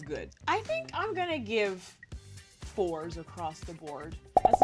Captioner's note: popping